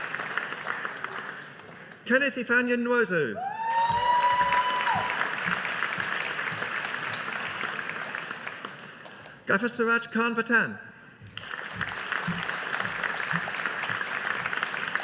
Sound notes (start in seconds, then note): 3.4 audience cheering; 11.3 audience applauding